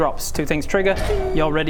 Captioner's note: ping!